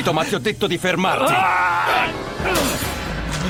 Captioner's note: man screams; dramatic music